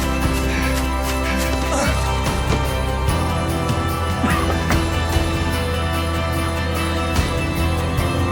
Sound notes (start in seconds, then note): 1.2 grunts in pain; 4.0 coughing and gasping